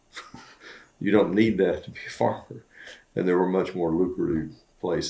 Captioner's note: laughs